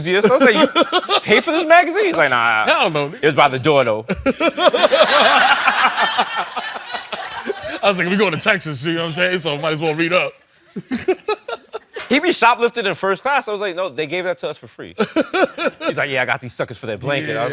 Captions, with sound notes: I was like, did you pay for this magazine? He's like, no, no. - Hell no. It was by the door though. [LAUGHING] I was like, we're going to Texas. You know what I'm saying? So might as well read up. He be shoplifting in first class. I was like, no, they gave that to us for free. He's like, yeah, I got these suckers for their blanket.